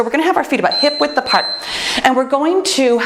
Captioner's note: timer beeps